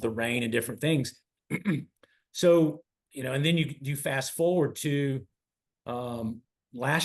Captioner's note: cough